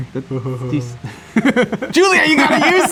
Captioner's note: chuckles